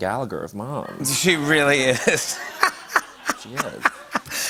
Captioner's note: laughter